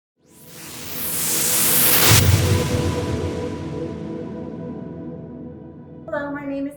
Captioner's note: whooshing